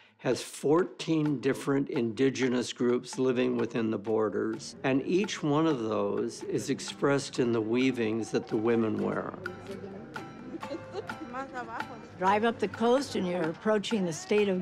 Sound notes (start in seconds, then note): 11.0 chatter, laughter